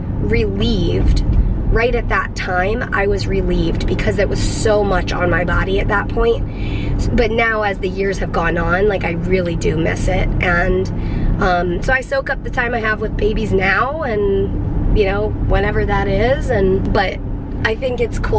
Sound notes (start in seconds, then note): none